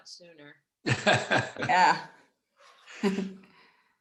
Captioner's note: man chuckling